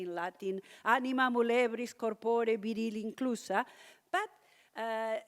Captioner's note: speaks in latin